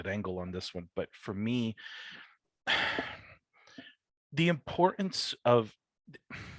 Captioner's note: sighs